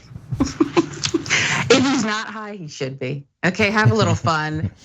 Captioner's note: laugh